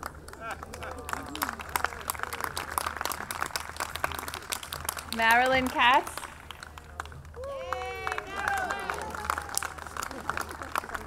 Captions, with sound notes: - Marilyn Katz. (audience cheering)